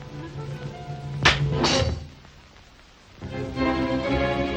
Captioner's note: air rifle pops; dramatic music